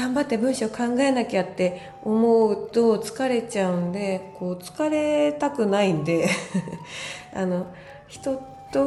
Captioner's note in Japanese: 笑い